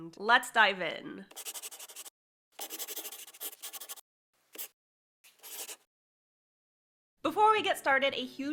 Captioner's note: the sound of a pen scratching. LOGO